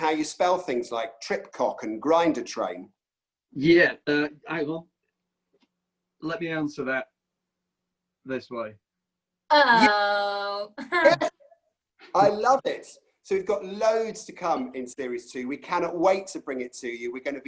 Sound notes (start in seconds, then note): 10.6 laughs